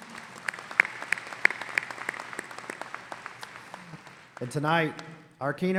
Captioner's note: audience applauding